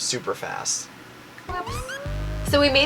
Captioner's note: whispering